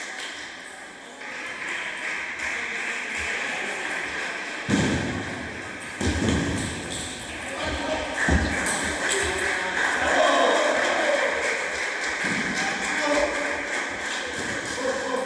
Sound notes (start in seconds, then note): 10.8 applause